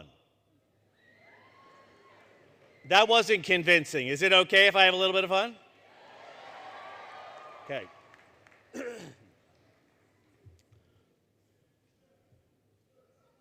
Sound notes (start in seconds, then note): 1.0 cheering; 5.8 cheering; 8.7 clears Throat